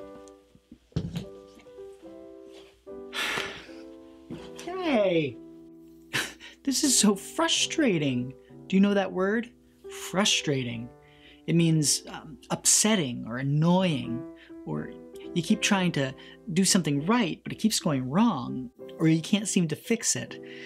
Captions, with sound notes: (sighs) Hey! This is so frustrating. Do you know that word? Frustrating. It means upsetting, or annoying. Or you keep trying to do something right but it keeps going wrong. Or you can't seem to fix it.